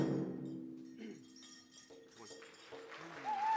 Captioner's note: cheers and applause